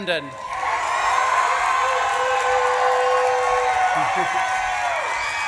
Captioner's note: audience claps and cheers; chuckles